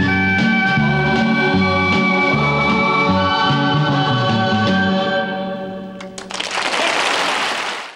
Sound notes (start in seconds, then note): 6.1 audience applauding